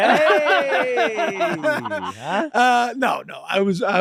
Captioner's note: Meg and Charlie laughing